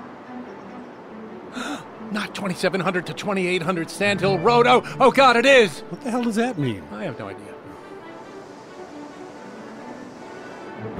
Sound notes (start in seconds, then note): 1.5 gasp; 2.1 brisk Music